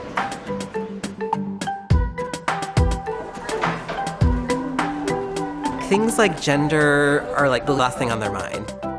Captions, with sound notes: [upbeat music] [chattering] Things like gender are like the last thing on their mind.